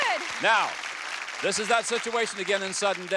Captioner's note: applause